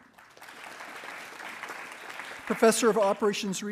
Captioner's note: attendees applauding